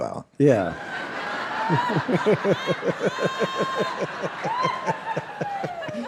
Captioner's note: audience and David laughing